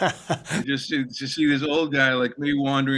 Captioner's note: laughter